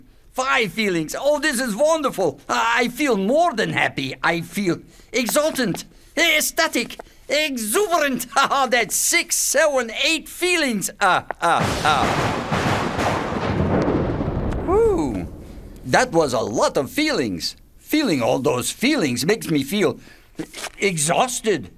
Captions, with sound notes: Five feelings! Oh, this is wonderful. I feel more than happy. I feel exultant, ecstatic, exuberant. [chuckles] That's six, seven, eight feelings. [laughs] [a thunderclap] Whoo, that was a lot of feelings. Feeling all those feelings makes me feel exhausted.